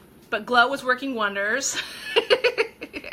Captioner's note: laughing